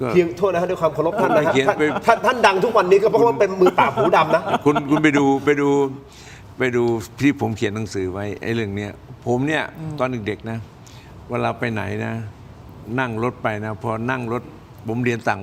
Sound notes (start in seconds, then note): 5.0 laughter